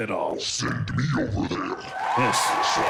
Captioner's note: monstrous voice; crowd cheering